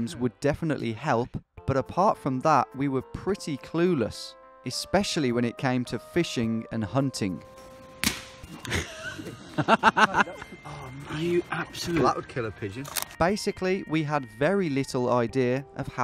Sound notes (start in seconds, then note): 8.6 laughing loudly